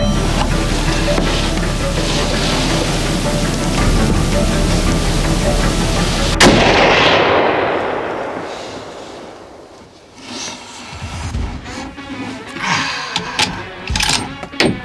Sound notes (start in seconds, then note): 6.4 gun fires; 12.3 sighs